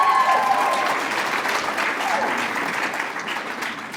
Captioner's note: applause